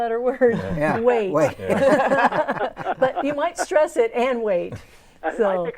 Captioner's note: laughing